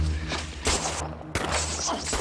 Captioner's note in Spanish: Disparos